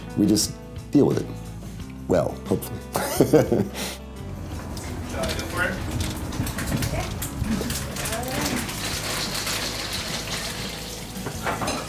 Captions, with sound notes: We just deal with it. Well hopefully. (laughs) (food sizzling)